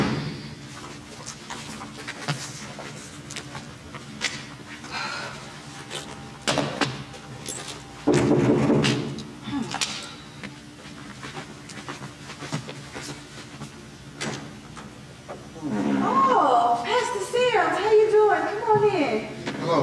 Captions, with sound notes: (Knocking) (Sighing) Oh, Pastor Simms, how you doing? Come on in.